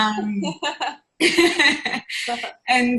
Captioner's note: laughing